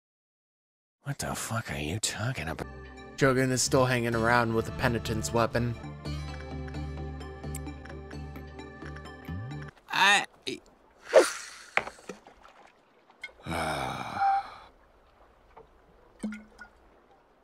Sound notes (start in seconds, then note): 1.1 voiceover; 5.7 soothing beats; 11.0 fishing rod swishes; 12.1 water splashes